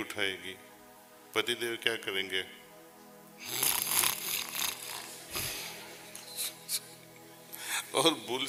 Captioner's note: snoring